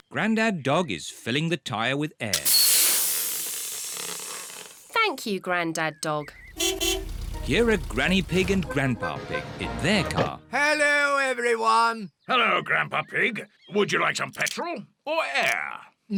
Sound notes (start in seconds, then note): 2.4 air hissing; 6.4 horn beeps